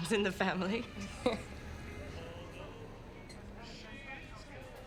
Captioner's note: laughs